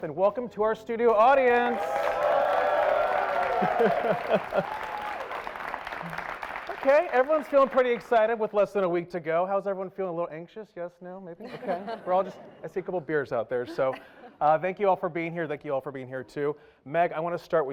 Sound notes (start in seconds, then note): 3.2 applause